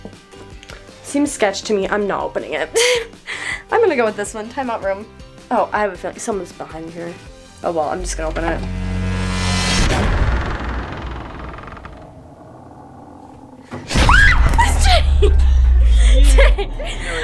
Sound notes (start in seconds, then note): 3.3 laughs; 8.2 door creaking; 8.8 suspenseful music; 13.8 screams; 14.5 laughs